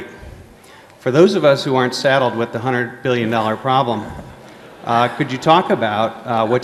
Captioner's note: laughter